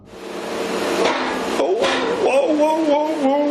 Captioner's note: loud banging; banging